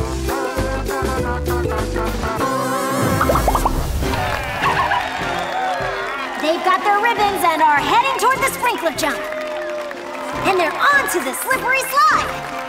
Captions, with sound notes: [popping] [cheering] [barking] They've got their ribbons and are heading toward the sprinkler jump! And they're on to the slippery slide!